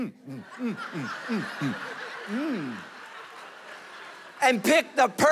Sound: congregation laughing

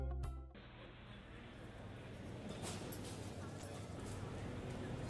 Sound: ambient restaurant and balboa sounds play in background

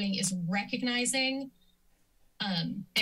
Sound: silence

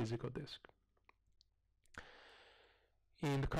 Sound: pause

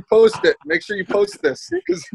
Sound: laughs

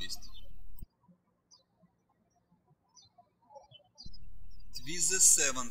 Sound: birds chirping

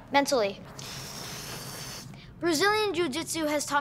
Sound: hissing

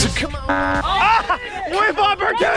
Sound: buzzer sound

